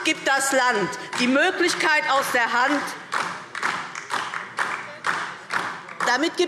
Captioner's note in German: Beifall DIE LINKE